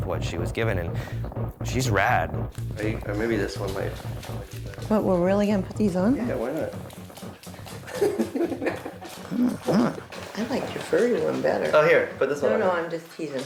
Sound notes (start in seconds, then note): 7.8 laughs